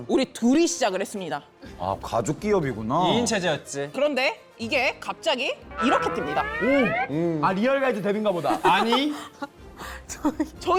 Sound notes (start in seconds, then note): 5.8 sound effect of hitting the peak